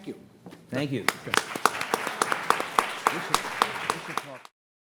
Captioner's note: participants applauding